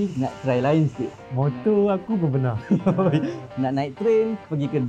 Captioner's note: laugh